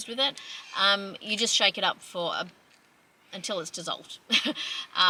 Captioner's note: scoffs